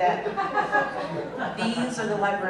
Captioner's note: laughter